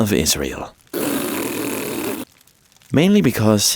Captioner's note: Israelites blow raspberries